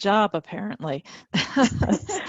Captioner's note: laughing